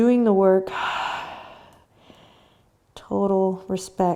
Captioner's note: breathing